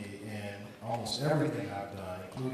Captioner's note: none